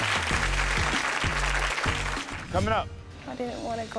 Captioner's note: audience applaud; lighthearted music